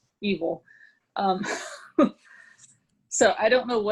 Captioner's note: laughs